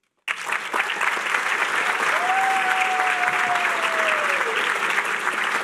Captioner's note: cheering